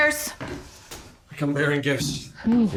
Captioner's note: footsteps approaching